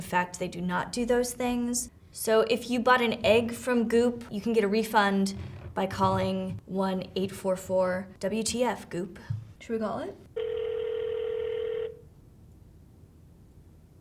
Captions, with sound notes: In fact, they do not do those things. So, if you bought an egg from Goop, you can get a refund by calling 1-844-WTF-GOOP. Should we call it?” [phone ringing]